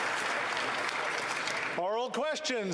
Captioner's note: applause